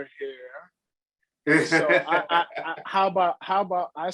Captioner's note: laughs